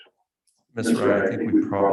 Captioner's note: people murmuring